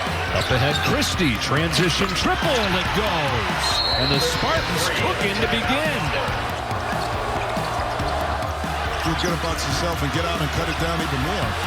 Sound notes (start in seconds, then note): 6.6 crowd cheering; 6.6 sneakers squeaking